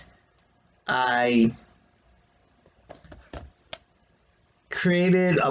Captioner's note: quiet clank of phone hitting the desk